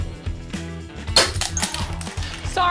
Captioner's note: glass breaks